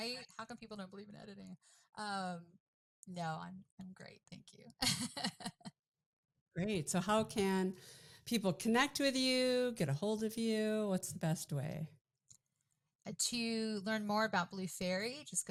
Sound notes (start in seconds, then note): 5.8 laughs